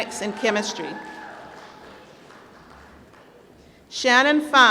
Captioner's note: applause